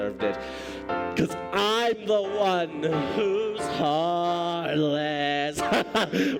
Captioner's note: laughing